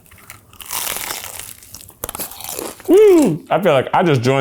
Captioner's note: crunching